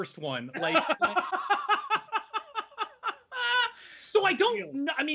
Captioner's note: laughing loudly